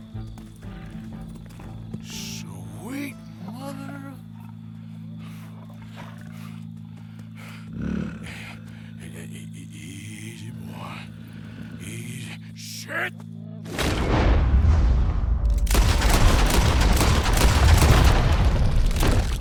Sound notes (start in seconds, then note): 0.7 A real lion starts growling around the corner and approaches Arthur; 10.1 breathes heavily